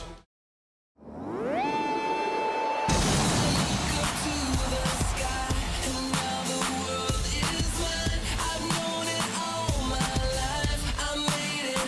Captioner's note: crowd cheering